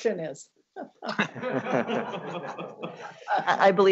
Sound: laughing

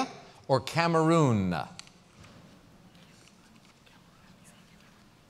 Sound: pause

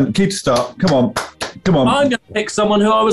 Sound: claps

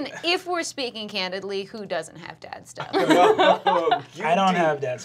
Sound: laughter

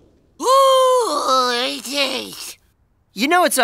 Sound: exploding; moaning

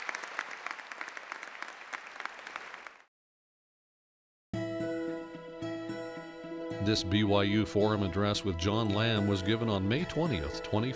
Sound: applause

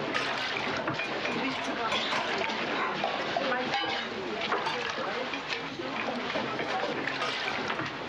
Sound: clanking and soft chattering

